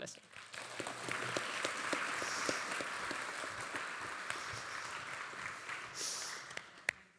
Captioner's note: audience applauding